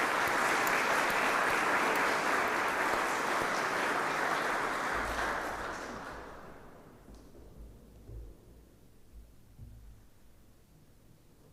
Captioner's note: applause